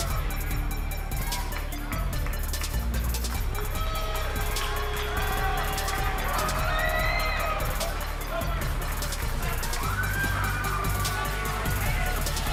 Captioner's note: crowd cheering; crowd chatter